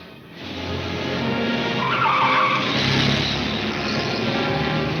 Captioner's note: car wheels screech